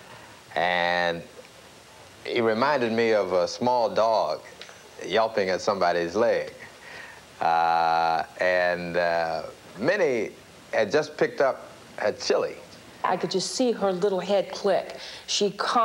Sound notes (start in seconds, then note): none